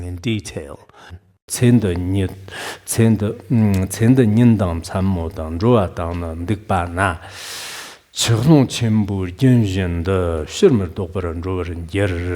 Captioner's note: giving oral transmission in Tibetan